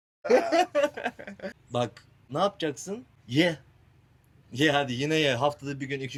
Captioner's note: laughter